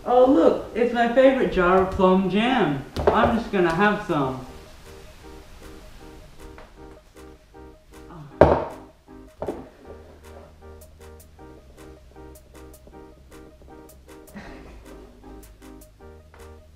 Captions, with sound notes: Oh look! It is my favourite jar of plum jam! I'm just gonna have some! *Soft grunt of failure* *Not so soft sigh of failure*